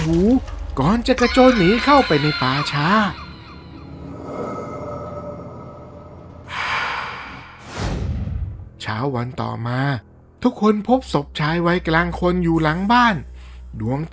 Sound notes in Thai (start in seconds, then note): 6.4 เสียงถอนหายใจ; 6.4 เสียงหายใจอ้าปากค้าง